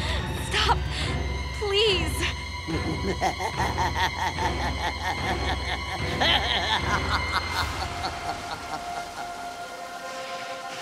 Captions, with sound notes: Stop. Please. [laughing]